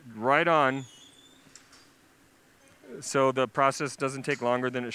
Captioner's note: pause